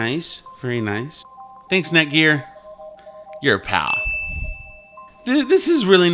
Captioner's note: ding sound